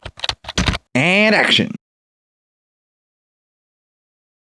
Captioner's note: typing